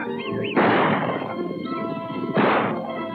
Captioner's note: gunshots